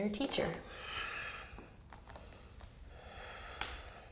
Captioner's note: deep breathing